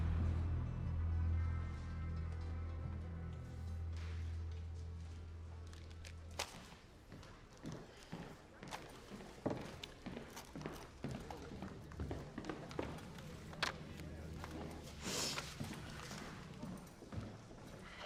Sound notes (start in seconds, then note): 7.9 footsteps approaching; 13.3 clatters on desk; 15.0 sniffs